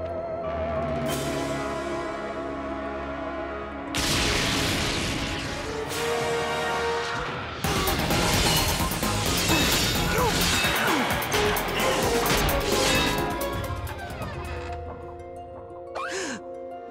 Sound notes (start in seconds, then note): 3.4 thundering; 10.0 grunting; 13.9 creaking; 15.9 gasping